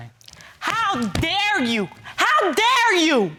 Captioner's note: screaming